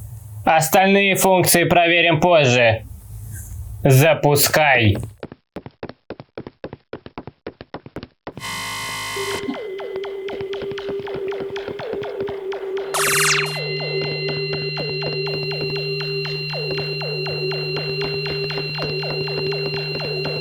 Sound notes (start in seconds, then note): 5.0 steps; 8.3 vibrations of starting and operating the device; 12.9 squeak of the portal